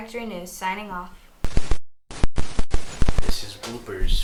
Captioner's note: Static